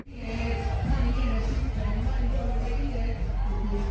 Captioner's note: crowd roaring